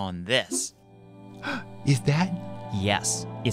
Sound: gasp

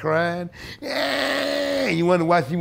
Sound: imitating crying baby

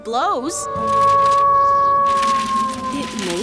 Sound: howling sound

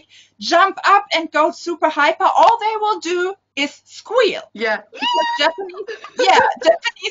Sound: squeals

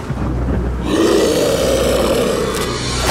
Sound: thunder and lightning; zombie groaning

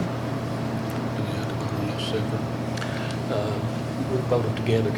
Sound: speaking faintly

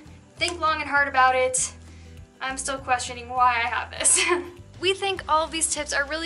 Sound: laughter

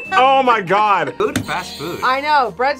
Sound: buzzer rings

